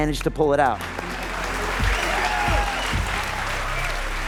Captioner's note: group applauding